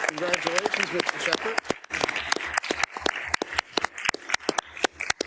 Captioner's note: attendees applauding